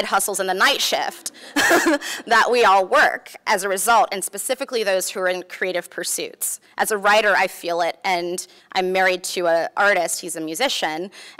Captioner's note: laughs